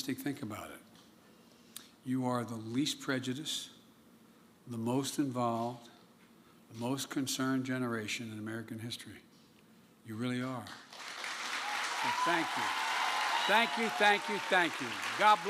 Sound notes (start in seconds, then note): 10.6 applause